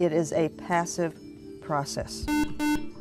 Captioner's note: buzzer